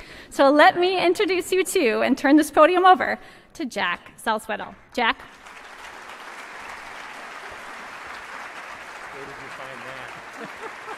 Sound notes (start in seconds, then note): 5.2 applause